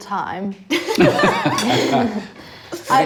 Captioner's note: laughs